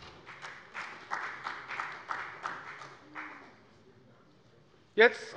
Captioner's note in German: Beifall bei der FDP